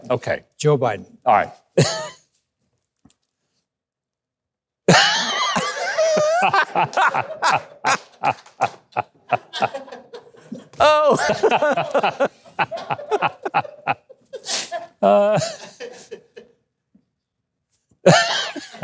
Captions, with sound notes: - Okay. - Joe Biden. - Alright. (laughing)